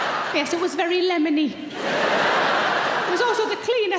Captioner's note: audience laughing